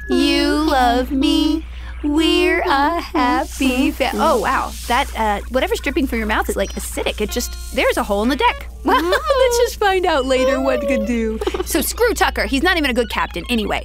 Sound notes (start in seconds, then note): 8.0 laughs